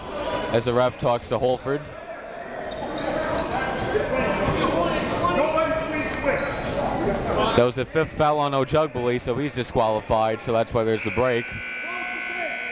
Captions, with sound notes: as the ref talks to Holford. (crowd talking) (coaches yelling) That was the fifth foul on Ojugbele, so he's disqualified, so that's why there's a break.